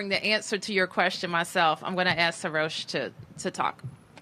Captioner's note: none